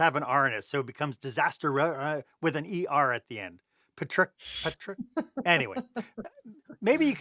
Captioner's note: laughter